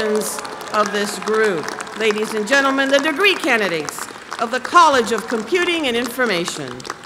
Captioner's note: applause